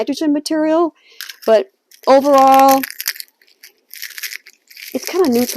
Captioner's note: eggshell cracking